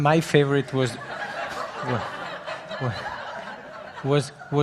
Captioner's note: audience laughing